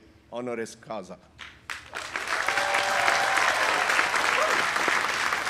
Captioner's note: audience applauding